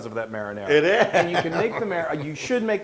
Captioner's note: laugh